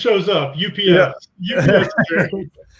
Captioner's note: laughs